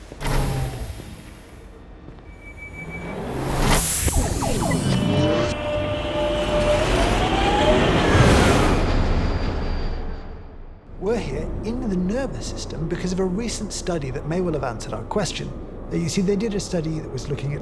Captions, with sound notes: (doors whir open) (doors whir, train hums) We're here in the nervous system because of a recent study that may well have answered our question. You see, they did a study that was looking